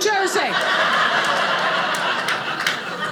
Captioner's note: audience laughing